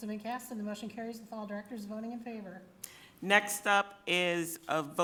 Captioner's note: none